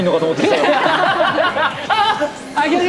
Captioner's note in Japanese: 笑い